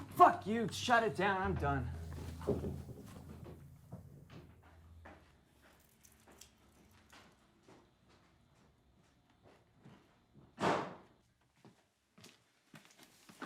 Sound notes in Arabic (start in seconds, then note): 5.7 نقر خطوات; 10.1 إغلاق الباب